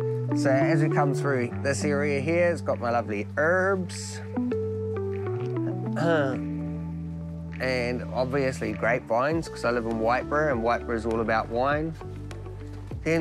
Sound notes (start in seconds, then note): 5.9 clears throat